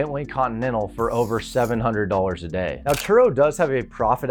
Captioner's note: marker scratches